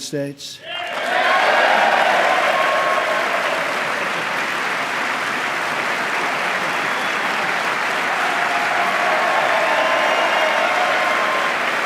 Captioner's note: applause